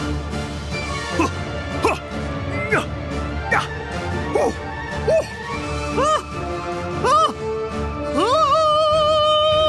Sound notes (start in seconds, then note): 1.7 gasping; 5.9 screaming